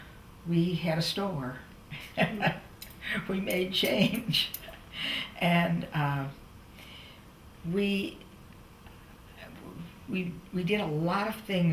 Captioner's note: laughter